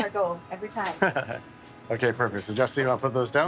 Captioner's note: laughing